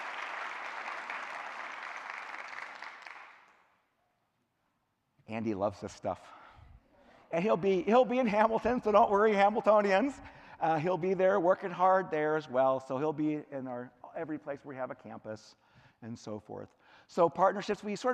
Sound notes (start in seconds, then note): 1.9 clapping